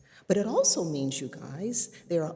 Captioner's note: none